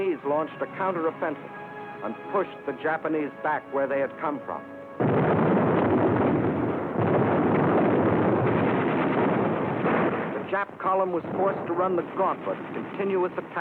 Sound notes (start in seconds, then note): 5.0 explosions